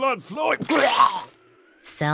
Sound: vomits

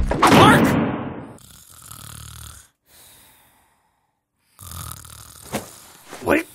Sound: Marc snores

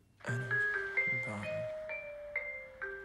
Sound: chime plays over PA

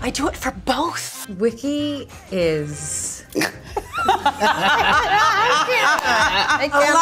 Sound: all laughing

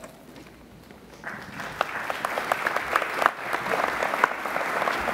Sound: applauding

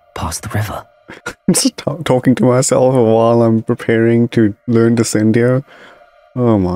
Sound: muffled laugh

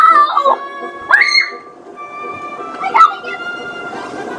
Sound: good assistant screams

